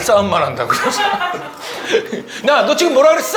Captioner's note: hee hee